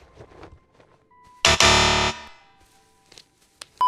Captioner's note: incorrect Buzzing noises